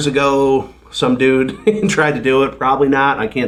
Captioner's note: laughs